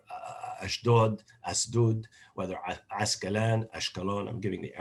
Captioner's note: non-english speech